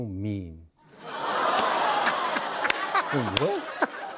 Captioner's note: laughter